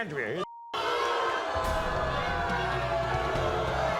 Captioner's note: audience boos